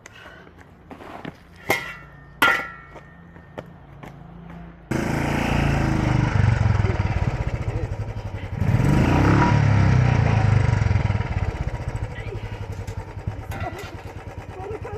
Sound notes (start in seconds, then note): 4.7 bike engine; 4.9 revving hard